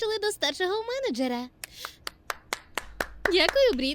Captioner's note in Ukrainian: Оплески